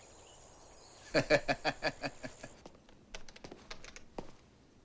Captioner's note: Latrell laughs